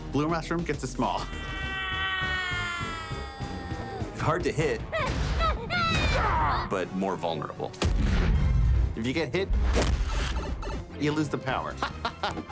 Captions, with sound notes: Blue mushroom gets you small. [high-pitched screaming] -It's hard to hit. . . -[grunting] ... but more vulnerable. If you get hit, you Iose the power. [chuckles]